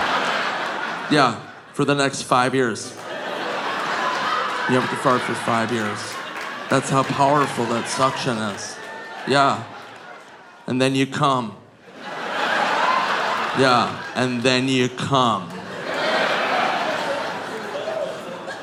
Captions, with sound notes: Yeah. For the next five years. You don't have to fart for five years. That's how powerful that suction is. Yeah. And then you come. (audience laughing) Yeah. And then you come. (all laughing)